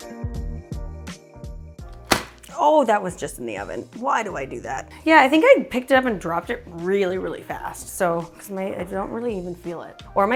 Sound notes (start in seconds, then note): 2.0 pan thuds